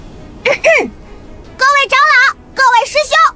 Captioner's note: cough cough